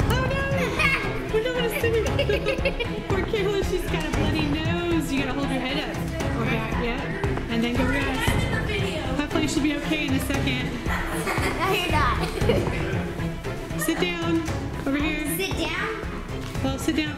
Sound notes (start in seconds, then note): 1.3 laughs; 10.6 kids laughing